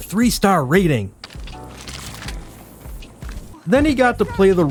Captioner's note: prairie chicken gore sounds